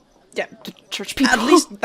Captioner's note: laughs